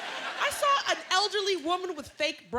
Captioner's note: laughter